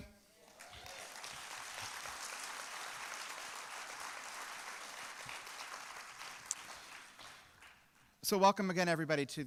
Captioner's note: applause